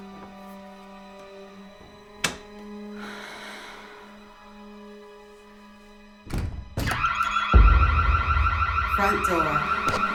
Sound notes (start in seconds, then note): 6.2 front door opening; 6.8 sirens blaring